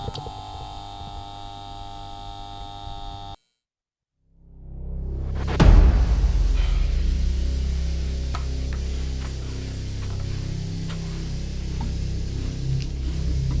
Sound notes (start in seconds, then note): 4.3 tense music; 5.7 broom swishes